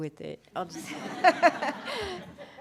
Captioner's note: laughter